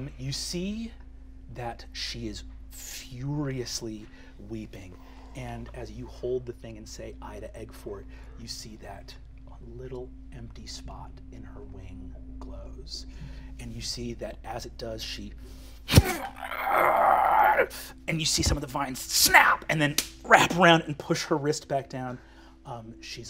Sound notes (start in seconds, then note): 15.9 strained grunting